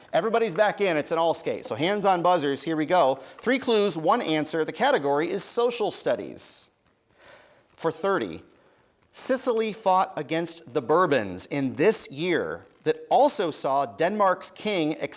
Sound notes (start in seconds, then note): none